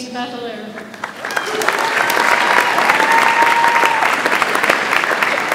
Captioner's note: audience applauds